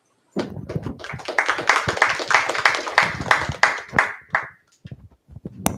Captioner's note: applause